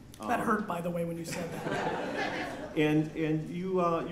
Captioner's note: laughter